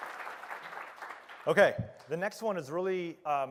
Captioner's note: applause